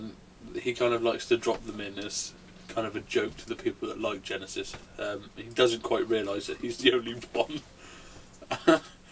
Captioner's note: laughs